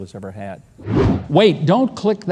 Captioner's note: logo whooshing